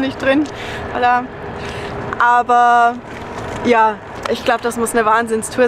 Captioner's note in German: auf Spanisch